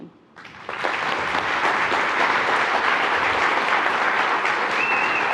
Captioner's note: attendees applauding